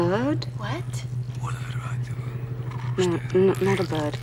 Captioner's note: whispering